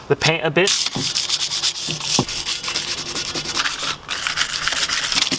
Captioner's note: sandpaper scratching